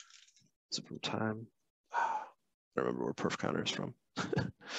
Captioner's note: sighs; chuckles